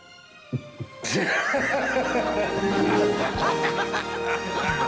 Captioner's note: people laughing